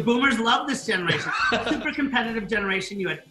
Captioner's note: laughs